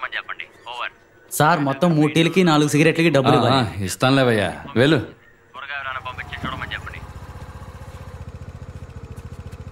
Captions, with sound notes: Sir, you've to pay for a total of three cups of tea and four cigarettes. Okay, I'll give. You leave now. (Bike Screeching)